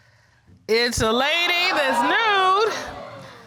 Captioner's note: audience exclaiming